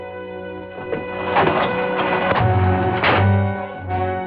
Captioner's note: clattering